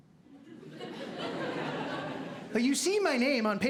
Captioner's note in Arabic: ضحك